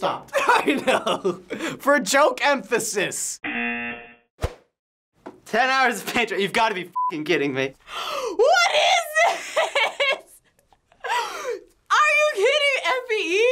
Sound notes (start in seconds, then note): 0.3 laughing; 3.4 buzzer; 4.2 silence; 7.8 gasping